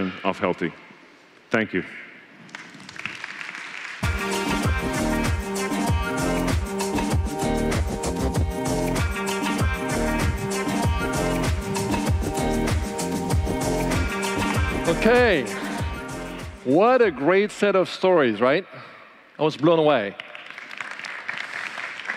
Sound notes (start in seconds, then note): 4.3 applause